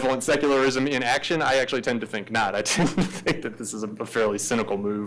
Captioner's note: laughs